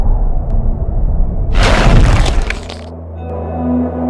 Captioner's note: crack!